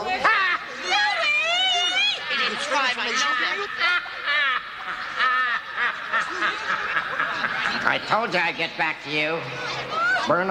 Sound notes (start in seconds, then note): 3.0 collective arguing; 6.2 menacing laugh